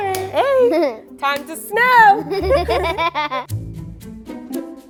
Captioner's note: all laughing; upbeat playful music